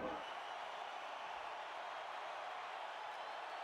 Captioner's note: crowd cheering